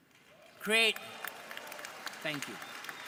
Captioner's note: audience applauding